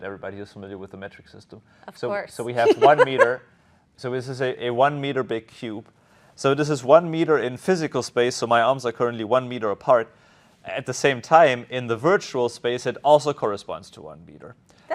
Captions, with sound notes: everybody is familiar with the metric system. Of course. (laughs) So we have one meter. So this is a, a one meter big cube. So this is one meter in physical space, so my arms are currently one meter apart. At the same time, in the virtual space, it also corresponds to one meter.